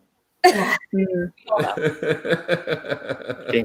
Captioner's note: all chuckle